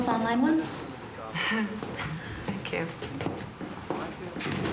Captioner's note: chuckles